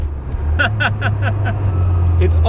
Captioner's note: chuckles